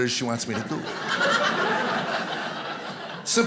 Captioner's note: audience laughing